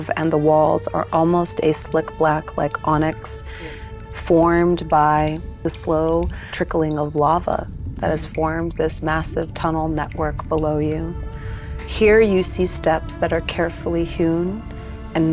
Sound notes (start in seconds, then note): none